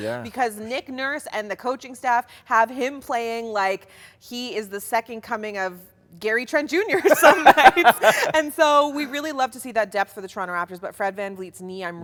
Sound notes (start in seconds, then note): 6.9 both laugh